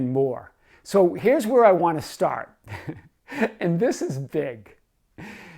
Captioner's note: laughs